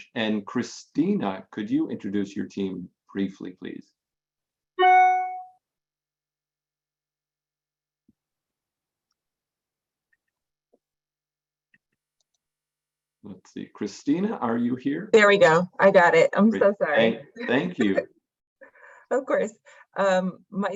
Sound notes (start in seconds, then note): 4.9 audio feedback